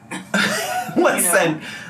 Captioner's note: laughs